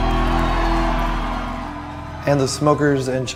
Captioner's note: crowd cheering